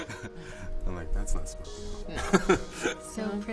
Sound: laughs

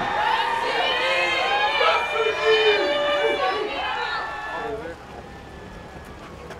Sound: crowd cheering

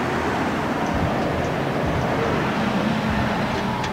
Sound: car passing

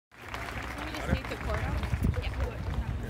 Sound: applause

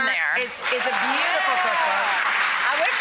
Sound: applause

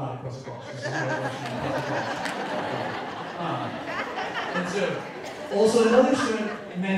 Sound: speaker drown out by audience laughing

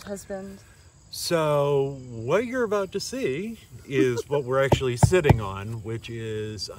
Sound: knocks on deck

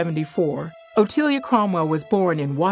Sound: none

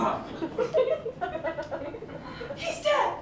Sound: laughter

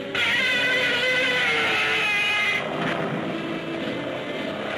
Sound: planes roaring; Gammera screeching

